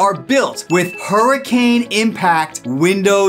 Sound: graphics swish

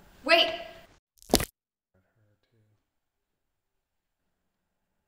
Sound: neck snaps

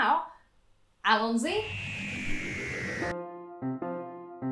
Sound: high-pitched sci-fi noise

